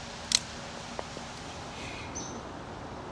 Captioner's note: twig breaking; birds chirping